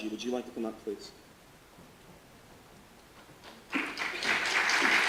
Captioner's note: audience applause